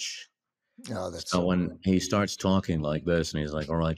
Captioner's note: imitating kubrick